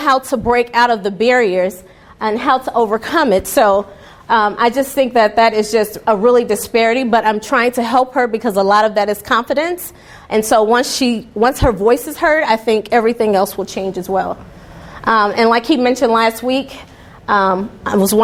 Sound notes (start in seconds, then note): none